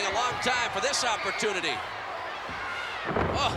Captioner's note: none